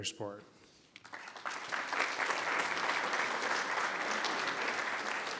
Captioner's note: members clapping